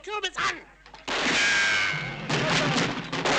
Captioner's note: guns firing; bullet ricochets